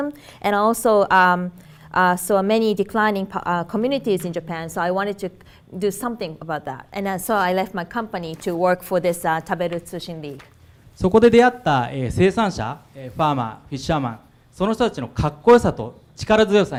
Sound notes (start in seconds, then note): 11.1 speaking foreign language